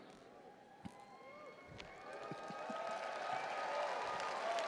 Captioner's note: audience cheering